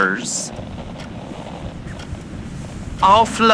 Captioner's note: blankets moving fx